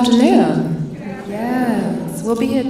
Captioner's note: audience mumbles